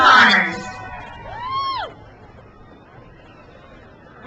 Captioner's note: crowd cheers